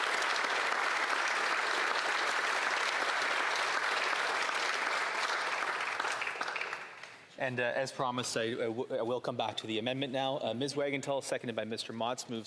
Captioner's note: applause